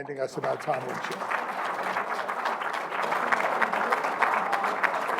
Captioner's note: applause